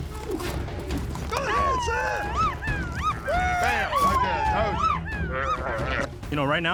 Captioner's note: rope swinging; cheering